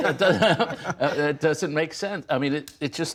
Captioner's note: laughter